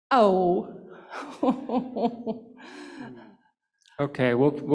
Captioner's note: laughs